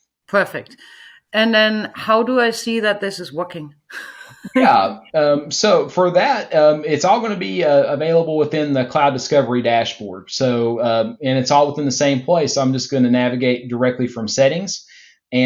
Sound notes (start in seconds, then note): 3.9 chuckles